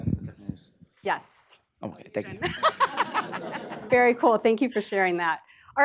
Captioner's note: laughter